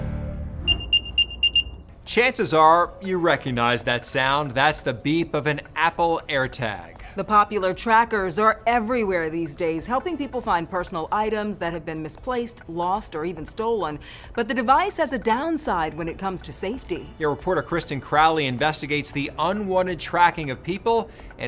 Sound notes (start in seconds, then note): 0.6 beeping